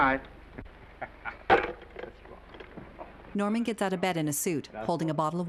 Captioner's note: Norman chuckling excitedly